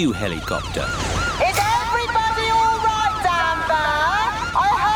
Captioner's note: over megaphone